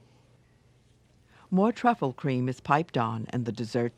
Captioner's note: voiceover